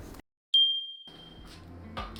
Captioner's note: machine dings; gentle music